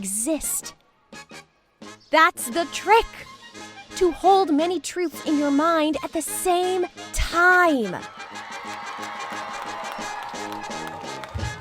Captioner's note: applause